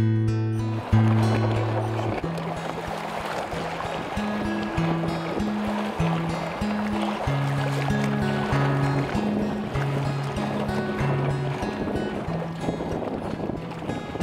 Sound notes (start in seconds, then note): 1.1 water sloshes